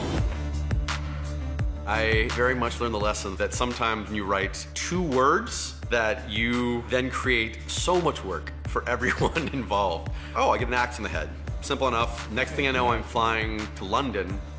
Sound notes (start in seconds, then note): 9.0 chuckles